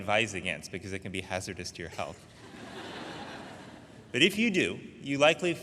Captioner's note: audience laughing